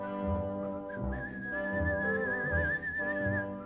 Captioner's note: whistles the melody